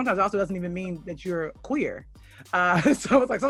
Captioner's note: laughs